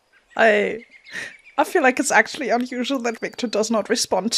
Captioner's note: laughs